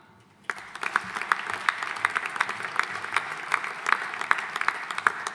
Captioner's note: audience applauding